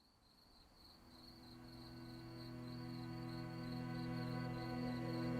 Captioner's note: insects chirping; solemn music